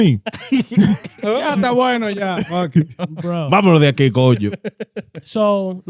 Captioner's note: laughing; speaking In Foreign Language